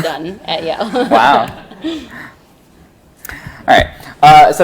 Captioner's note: laughing